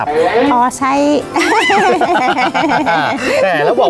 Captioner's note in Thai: เสียงหัวเราะ